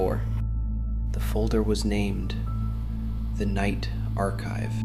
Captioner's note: whispers